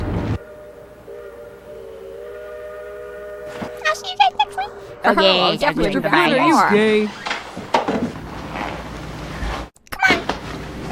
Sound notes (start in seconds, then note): 5.5 unenthusiastic sounds of gay goodbyes